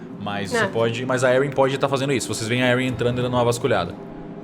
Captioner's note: none